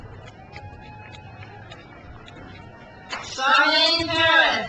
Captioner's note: crowd cheers